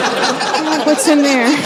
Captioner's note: laughter